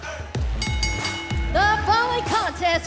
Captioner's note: bell ringing